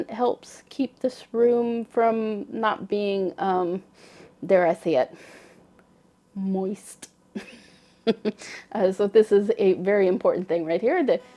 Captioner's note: laughter